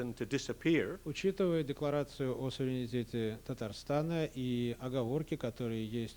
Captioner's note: non-english speech